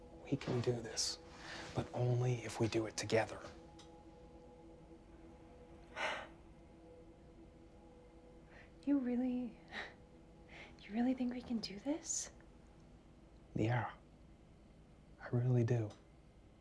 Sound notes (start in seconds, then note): 5.9 Claire sighs; 7.1 tense music; 9.5 laughs